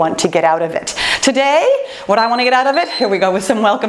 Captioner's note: timer beeps